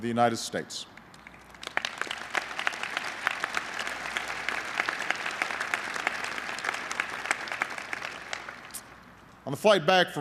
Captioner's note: applause